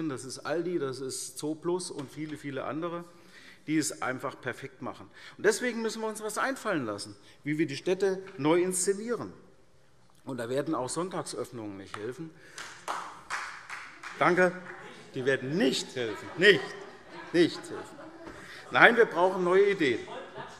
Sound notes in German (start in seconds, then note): 12.5 Beifall : Nicht?